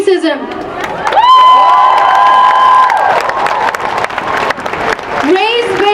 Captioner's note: cheering and applause